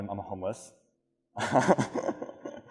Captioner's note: laughs